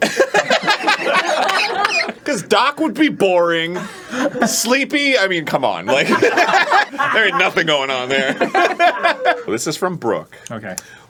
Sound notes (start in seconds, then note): 0.0 cackling and coughing; 0.0 crew laughing; 5.8 laughing